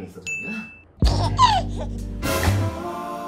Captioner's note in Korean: 헤헿